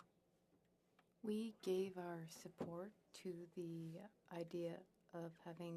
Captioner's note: speaking French